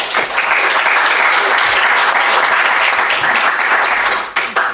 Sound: audience applauds

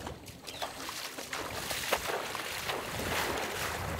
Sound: water splashing

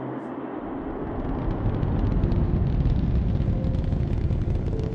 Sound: sounds of the rocket taking off

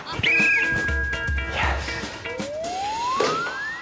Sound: whistles

